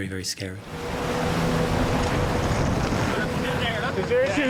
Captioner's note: lifeboat vrooming